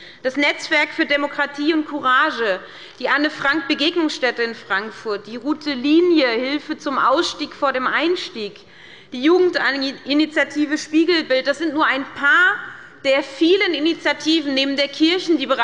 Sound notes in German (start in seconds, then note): none